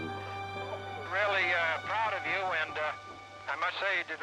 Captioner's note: on phone